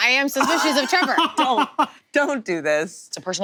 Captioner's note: laughs